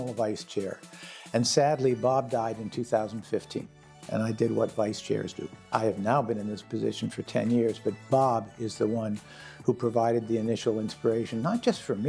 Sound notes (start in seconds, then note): none